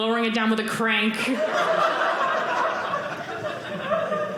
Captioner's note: audience laughing